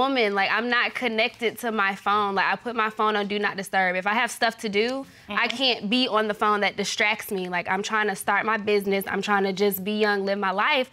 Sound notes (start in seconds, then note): none